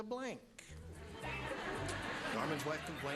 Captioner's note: laughter